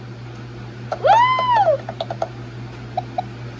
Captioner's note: Tomoko cheers